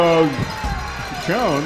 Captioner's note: crowd Noise